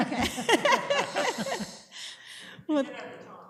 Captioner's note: laughter